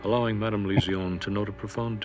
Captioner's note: chuckling